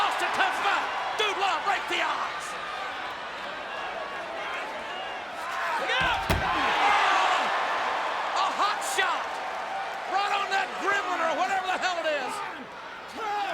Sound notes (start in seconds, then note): 6.1 audience cheers